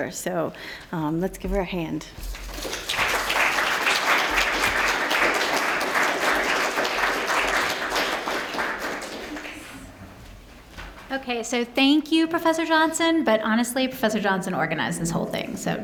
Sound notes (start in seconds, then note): 2.4 applause